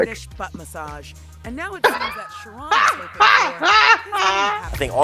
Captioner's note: laughs